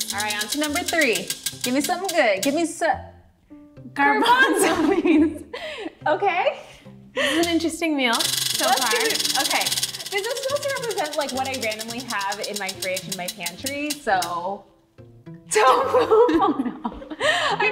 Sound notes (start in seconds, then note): 8.1 wheel clicking; 15.5 both laughing